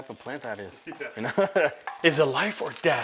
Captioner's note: laughing